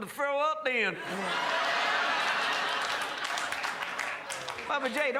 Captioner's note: crowd laughs